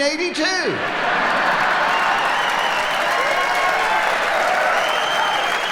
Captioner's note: audience applauding